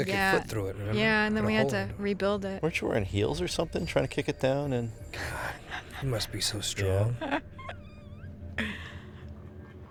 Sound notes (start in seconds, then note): 7.0 katic laughing